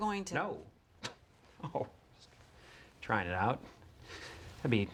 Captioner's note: chuckles